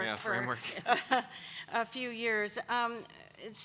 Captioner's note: laughter